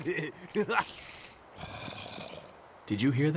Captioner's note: laughing; laughter continues; spider hisses; zombie gurgles